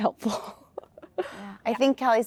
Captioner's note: laughter